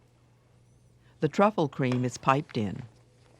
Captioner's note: voiceover